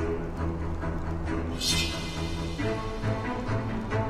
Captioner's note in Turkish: Kılıç Çekme Sesi